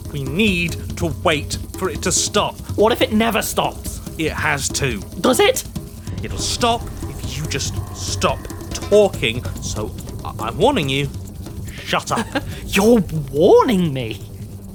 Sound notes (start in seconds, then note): 11.7 laughs